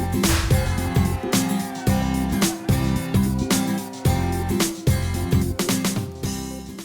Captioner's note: crowd cheering; object explodes